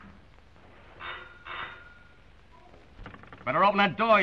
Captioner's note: doorbell ringing